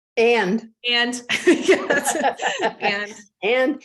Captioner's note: laughs